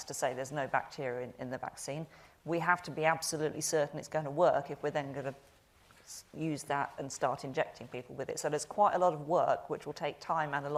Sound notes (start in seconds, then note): none